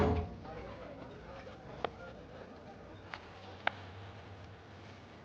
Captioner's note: door clatters; patrons chatter